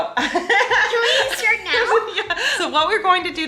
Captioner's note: laughing